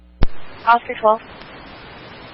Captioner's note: radio traffic